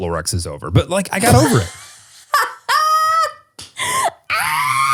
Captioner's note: laughs